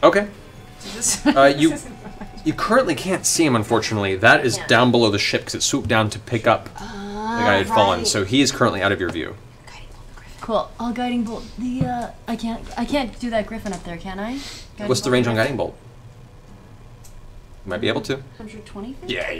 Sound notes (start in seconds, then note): 9.2 whispers